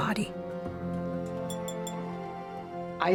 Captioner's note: glass clinking